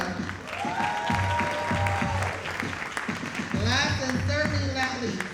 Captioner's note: audience cheering and applauding